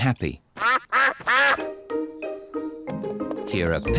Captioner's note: ducks quack